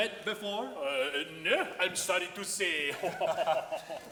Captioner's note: laughing